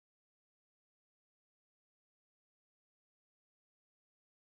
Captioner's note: none